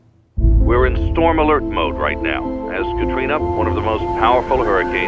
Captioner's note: man 1 on radio